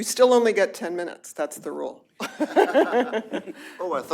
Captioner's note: laughter